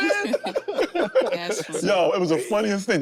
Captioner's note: group laughing